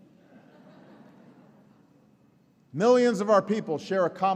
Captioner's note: laughter